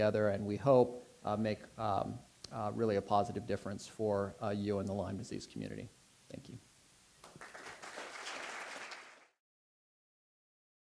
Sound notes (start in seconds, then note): 7.2 applause